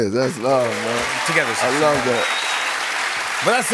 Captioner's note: cheers and applause